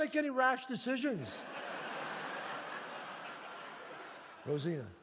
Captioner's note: audience laughs